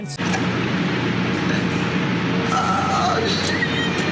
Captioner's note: bees buzzing